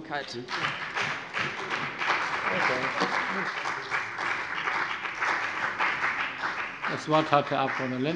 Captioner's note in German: Beifall bei dem BÜNDNIS 90/DIE GRÜNEN und der CDU